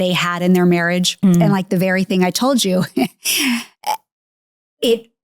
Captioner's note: laughs